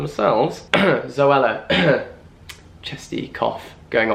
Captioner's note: coughs